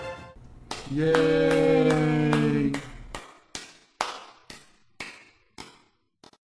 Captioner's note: applause